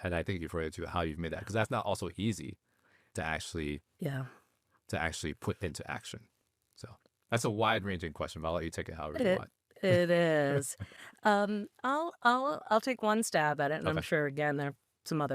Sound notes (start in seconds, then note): 10.4 chuckling